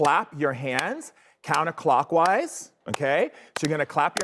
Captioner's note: claps; audience claps